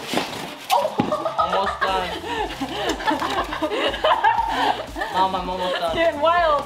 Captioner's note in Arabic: الكل يضحك